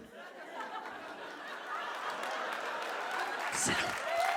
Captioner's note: audience laughs and starts to clap; audience claps and cheers